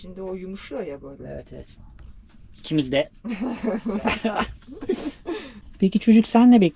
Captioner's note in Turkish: kahkaha